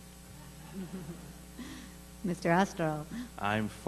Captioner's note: laughter